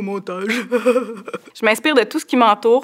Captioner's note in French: rires